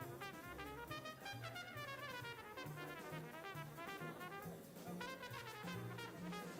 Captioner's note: upbeat jazz music continues; people chattering